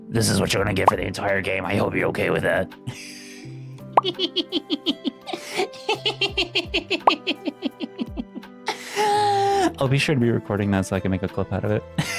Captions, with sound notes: This is what you're going to get for the entire game. I hope you're okay with that. (laughs) (laughs) (laughs) I'll be sure to be recording that so I can make a clip out of it.